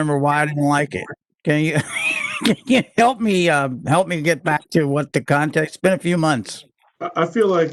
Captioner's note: laughter